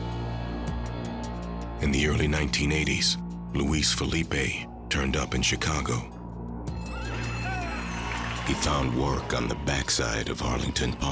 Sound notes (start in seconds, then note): 6.8 horses whinnying